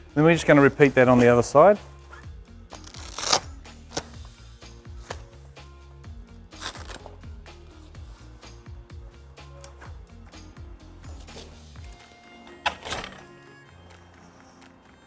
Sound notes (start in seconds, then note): 2.7 velcro ripping; 8.3 light music